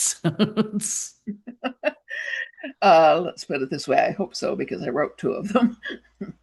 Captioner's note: chuckles